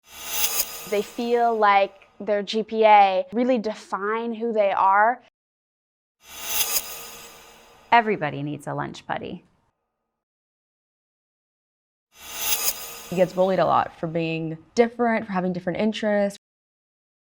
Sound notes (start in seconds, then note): 0.1 whizzes; 6.3 whizzes; 12.2 whizzes